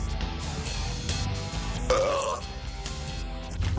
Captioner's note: man burps